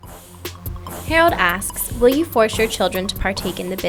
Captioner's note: voiceover